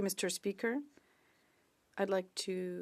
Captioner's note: speaking French